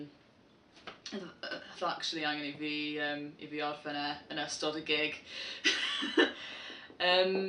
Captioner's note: laughs